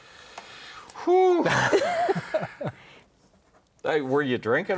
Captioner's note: laugh